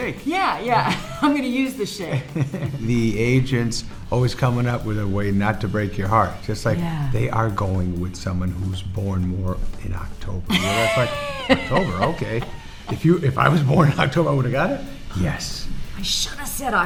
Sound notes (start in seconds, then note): 10.5 Laura laughing